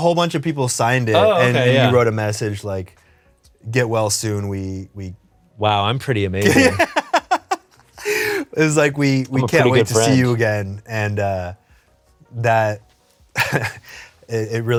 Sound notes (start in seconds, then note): 6.4 laughs